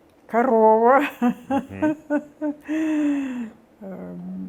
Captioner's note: laughing